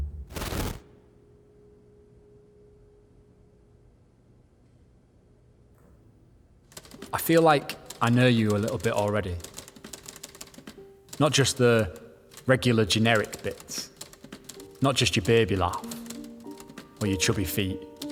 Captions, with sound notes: (typewriter keys clacking) I feel like I know you a little bit already. Not just the regular, generic bits, not just your baby laugh, or your chubby feet,